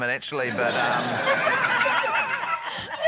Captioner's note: laughter